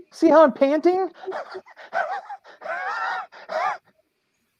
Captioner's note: panting